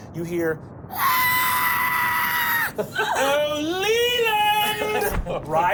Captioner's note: screeches